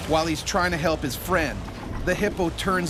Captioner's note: voiceover